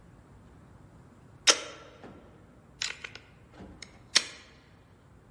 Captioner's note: clicking